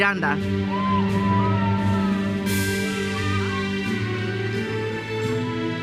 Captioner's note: audience cheers and applauds